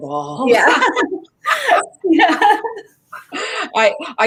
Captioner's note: both laugh